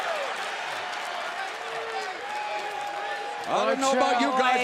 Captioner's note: crowd cheering